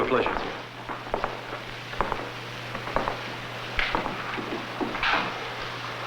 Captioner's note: footsteps